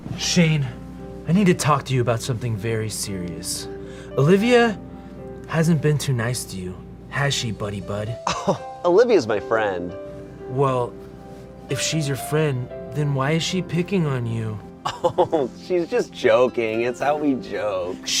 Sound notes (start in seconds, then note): 8.2 chuckles; 14.8 chuckles